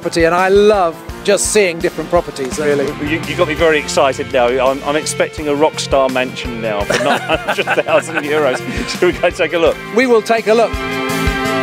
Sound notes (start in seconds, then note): 6.9 both laughing